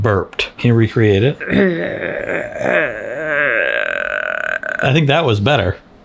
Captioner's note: groans